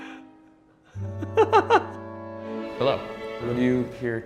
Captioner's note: violin music; laughs